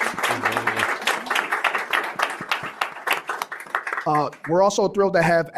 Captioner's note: applause